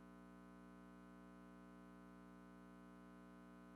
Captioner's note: none